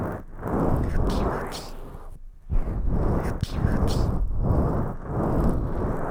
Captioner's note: gentle wiping